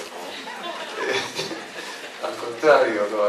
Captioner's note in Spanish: risas